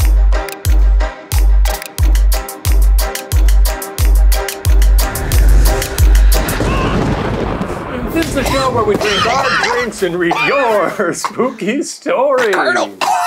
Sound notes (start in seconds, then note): 0.0 bouncy Halloween music; 6.5 thunder rumbling